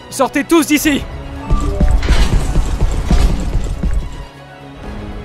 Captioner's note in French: porte qui s'ouvre et bruits de pas